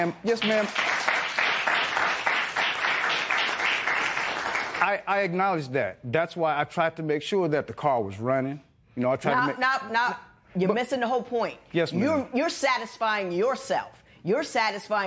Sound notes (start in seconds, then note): 0.2 applause